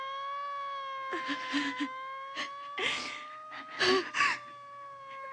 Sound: whimpering

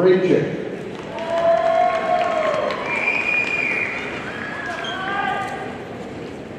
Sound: audience cheering and applauding

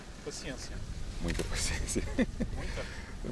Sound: laughter

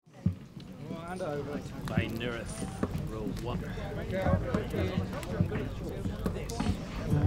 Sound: villagers chat

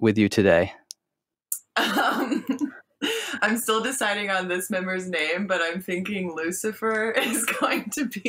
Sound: laughs

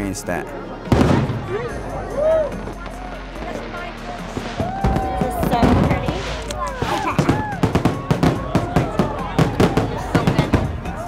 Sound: fireworks

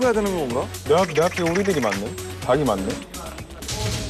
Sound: quack quack

